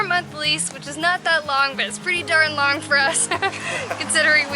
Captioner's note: laughter